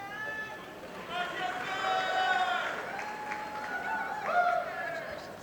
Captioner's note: audience applauding